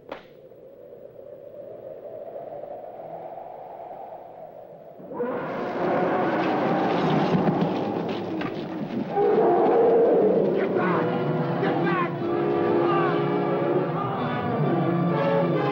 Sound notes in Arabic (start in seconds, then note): 0.3 تهب الرياح; 5.0 زئير الفيلة; 10.5 موسيقى درامية